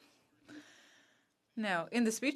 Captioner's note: speaking French